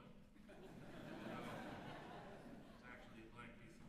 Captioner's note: laughter